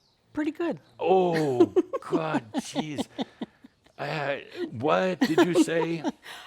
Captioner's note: giggles